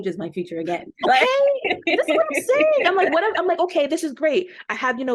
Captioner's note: laughter